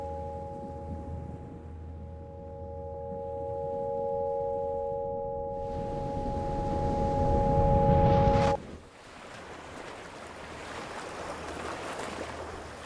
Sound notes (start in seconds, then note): 5.6 waves crashing; 8.9 water bubbling